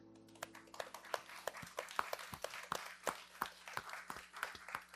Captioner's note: somber music; audience applauding